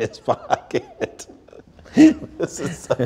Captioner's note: laughing